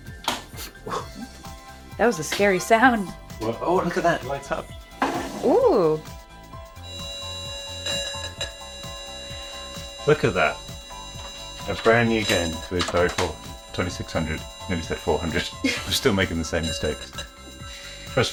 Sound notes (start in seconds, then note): 0.4 game cartridge clacks; 6.8 game beeping